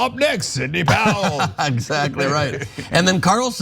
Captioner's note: laugh